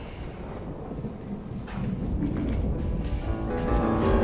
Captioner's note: thunder rumbling